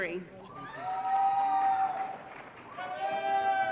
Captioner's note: applause & Cheering